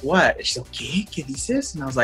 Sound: speaking Spanish

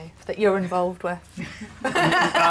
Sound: laughter

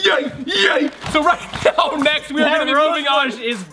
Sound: laughs

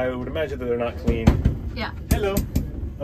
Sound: banging on door

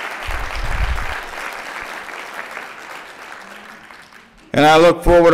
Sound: applause

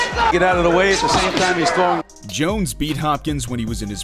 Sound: crowd cheering

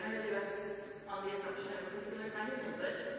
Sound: none

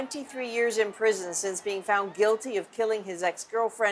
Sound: cheers and Applause

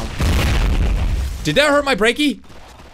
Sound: meteor crashes

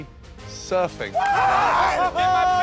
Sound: cheers

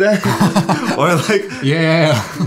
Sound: both laughing

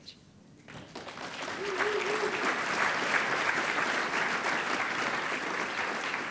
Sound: audience applauding

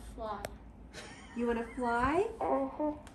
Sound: father laughs

